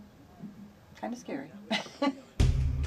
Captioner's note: laughs